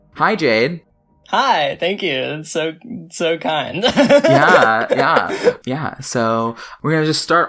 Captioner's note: laughs